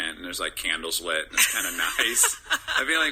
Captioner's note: laughter